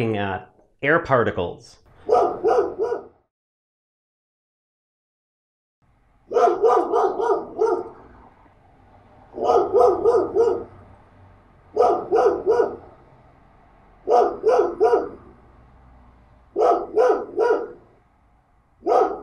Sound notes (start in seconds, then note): 2.0 dog barking